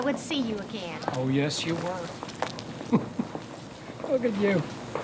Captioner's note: laughing